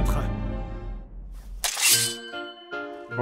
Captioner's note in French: bruitage d'épées